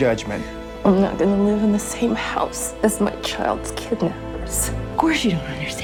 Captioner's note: voiceover